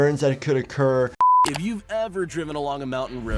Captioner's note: screen beeps